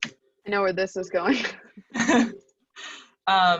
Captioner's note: laughs